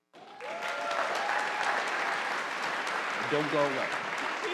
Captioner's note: audience applauding